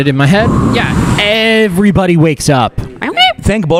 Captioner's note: breathes out heavily